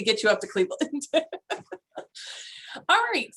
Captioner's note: laugh